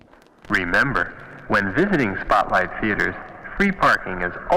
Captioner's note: man On PA